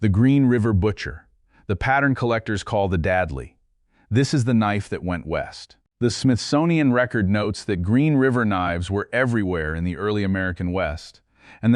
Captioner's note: serious tone